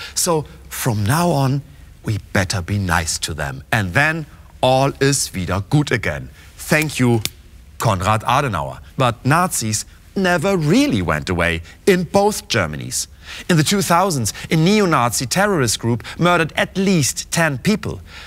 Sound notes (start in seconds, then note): 4.6 speaking german